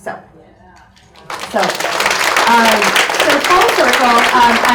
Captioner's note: audience applauds